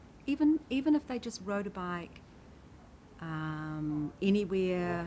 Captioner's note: none